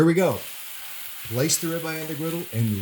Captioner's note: loud sizzle